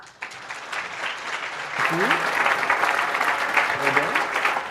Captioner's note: audience applauding